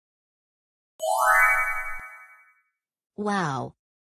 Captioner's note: chimes